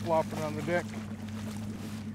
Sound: fish splashing

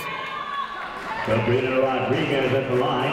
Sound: people shouting in the crowd

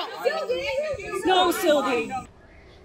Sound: crowd cries out

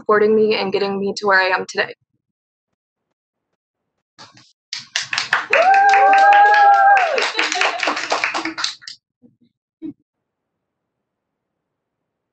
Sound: cheering

